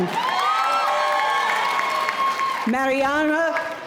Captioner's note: audience cheering